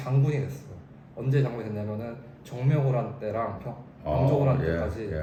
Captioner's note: Manchu